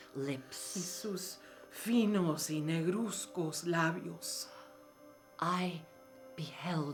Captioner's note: speaking in foreign language